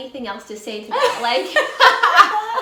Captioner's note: loughs